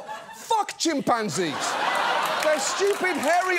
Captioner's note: studio audience laughs